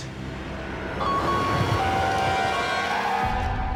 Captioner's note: siren wailing